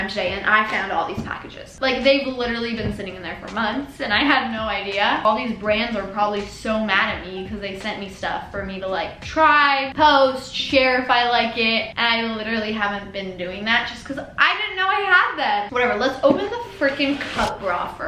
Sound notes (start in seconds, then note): none